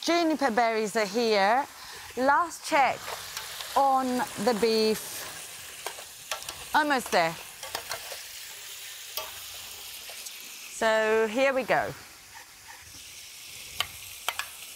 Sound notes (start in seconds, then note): 5.0 sizzling